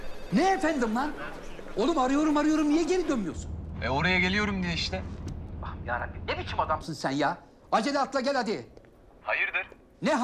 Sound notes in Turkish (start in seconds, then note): 5.4 Yüksel ses